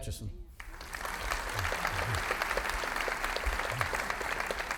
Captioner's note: audience applauding